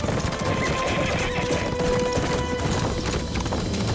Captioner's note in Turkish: At kişneme sesi